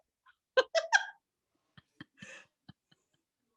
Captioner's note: laughs loudly